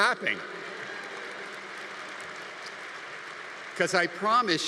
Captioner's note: congregation applauding